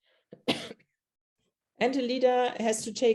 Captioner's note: coughs